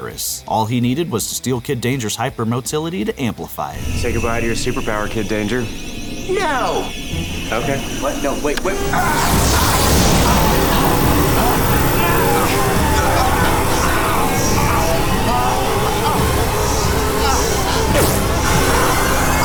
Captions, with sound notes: All he needed was to steal Kid Danger's hyper motility to amplify it. Say goodbye to your superpower, Kid Danger. - No. - Okay. What? No. Wait. Wait. [gasping] [groaning] [gasping]